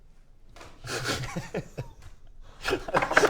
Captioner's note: sniggering; disturbing laughter